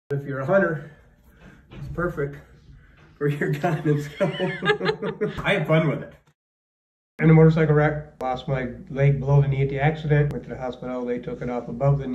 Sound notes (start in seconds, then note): 3.3 laughs